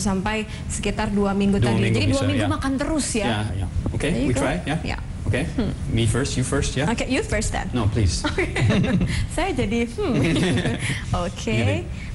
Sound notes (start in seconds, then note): 1.5 non-english speech; 10.2 non-english speech